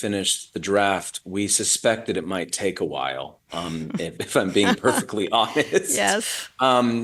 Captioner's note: laughs